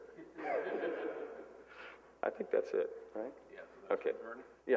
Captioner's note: laughter